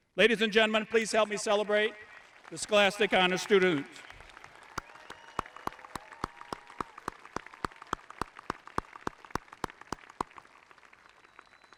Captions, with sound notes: Ladies and gentlemen, please help me celebrate the Scholastic Honor Students. (audience applauding) (audience cheering)